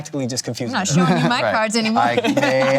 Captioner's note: laughs